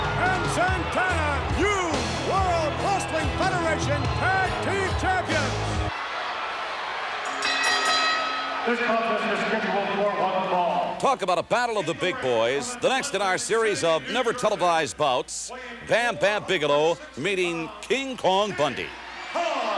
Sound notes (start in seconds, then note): 6.3 audience chattering; 7.2 bell ringing